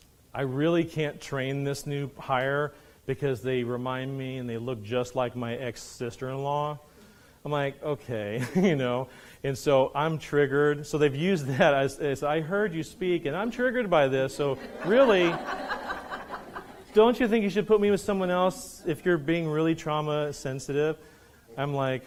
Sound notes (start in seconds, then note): 16.3 audience laughs